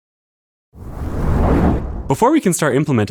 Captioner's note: whoosh